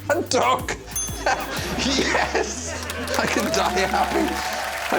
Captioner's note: laughs; bell rings